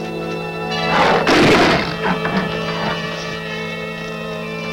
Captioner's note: Brutus growling